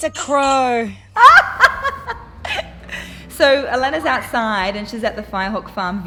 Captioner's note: laughing